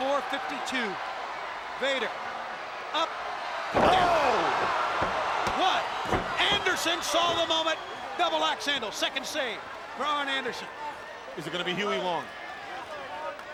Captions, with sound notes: 452, Vader, up. (crowd clamoring) (body thudding) Oh! One, Anderson saw the moment. Double axe handle, second save for Arn Anderson. Is it gonna be Huey Long?